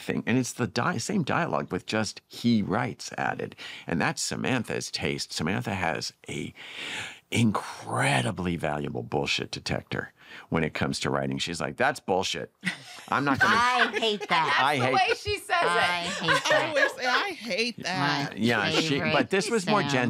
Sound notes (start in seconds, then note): 12.6 laughter